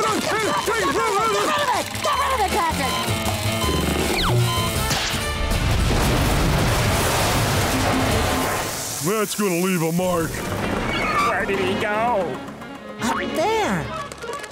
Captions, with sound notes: Get ride of it! Get rid of it, Patrick! [beeping] That's gonna leave a mark. Where did he go? There.